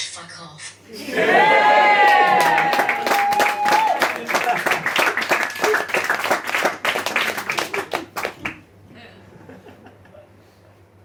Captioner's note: audience cheer and applause